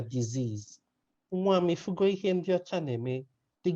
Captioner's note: speaking in a Nigerian language